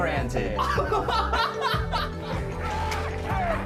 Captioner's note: laughing